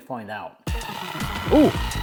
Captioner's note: electric whisk whirring